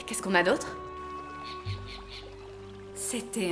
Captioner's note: bird cawing